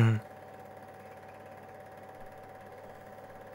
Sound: film reel whirring

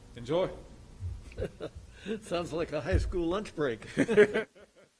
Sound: laughs

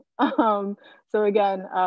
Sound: chuckling

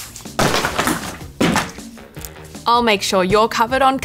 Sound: thudding of books

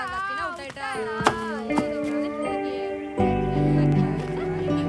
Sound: children mocking

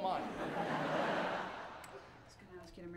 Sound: audience laughter

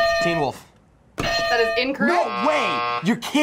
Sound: buzzer rings; bell rings

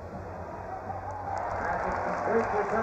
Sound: applause

